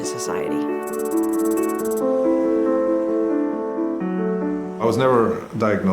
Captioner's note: soft music; keyboard tapping